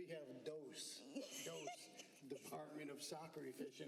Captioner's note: laughter